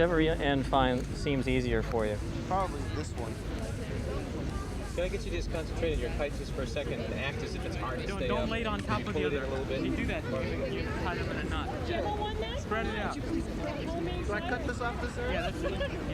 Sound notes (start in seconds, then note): 12.4 indistinct chatter